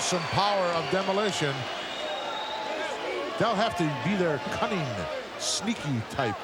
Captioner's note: applause